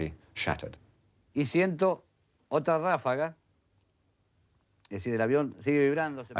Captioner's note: man speaking in foreign language